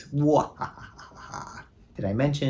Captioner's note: bwahahaha!